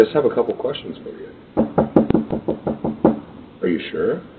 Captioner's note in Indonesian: mengetuk pintu